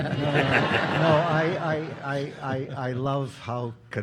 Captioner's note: audience applauding